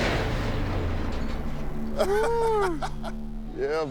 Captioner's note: laughter